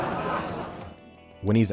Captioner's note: laughter